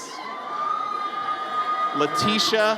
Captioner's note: audience cheers